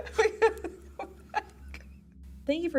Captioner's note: both laugh